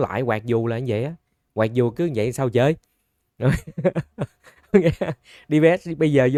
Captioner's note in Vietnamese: Tiếng cười